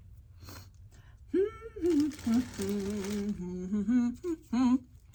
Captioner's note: humming